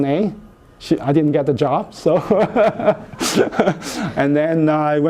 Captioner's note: laughs